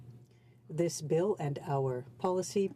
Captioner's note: speaking french